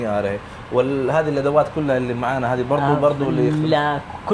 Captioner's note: Arabic